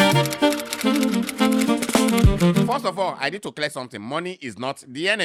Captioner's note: keyboard clacking; upbeat music